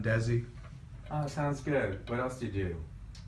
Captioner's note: voiceover